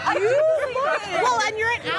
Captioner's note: laughter